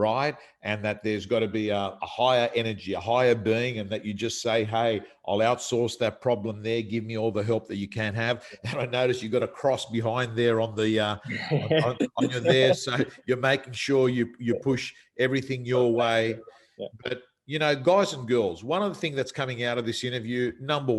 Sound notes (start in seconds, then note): 11.2 chuckles